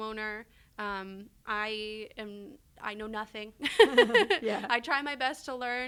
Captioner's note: laughs